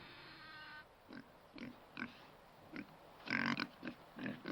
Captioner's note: pig snorting